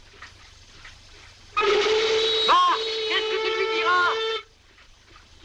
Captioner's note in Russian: свист парохода